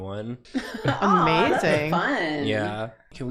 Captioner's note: laughs